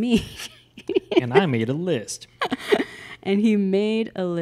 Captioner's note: laughs